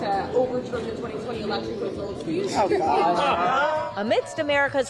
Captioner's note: crowd